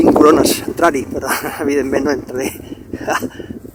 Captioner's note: laughs